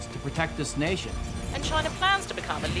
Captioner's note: computer AI sounds